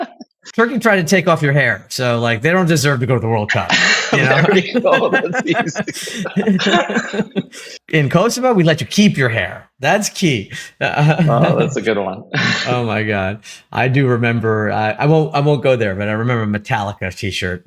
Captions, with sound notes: [laugh] . Turkey tried to take off your hair so, like, they don’t deserve to go to the World Cup, you know? [laugh] . [laugh] . In Kosovo, we let you keep your hair. That’s key [laugh] . That’s a good one. Oh, my God, I do remember—I won’t go there—but I remember a Metallica t-shirt.